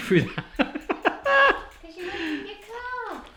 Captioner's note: laughing